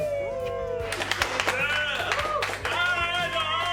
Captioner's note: applause